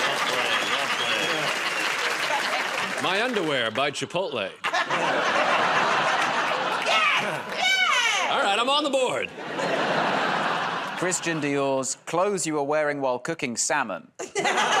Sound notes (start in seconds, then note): 4.6 laughter